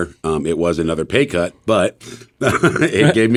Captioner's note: laughs